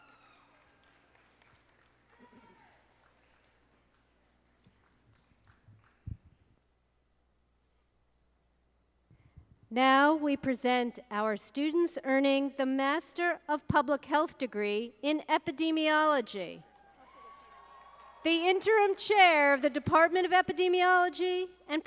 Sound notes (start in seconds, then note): 0.0 audience applauding; 17.0 audience applauding